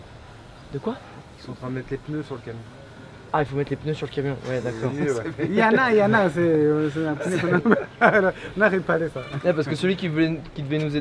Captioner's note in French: rire